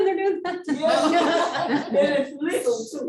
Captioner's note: laughing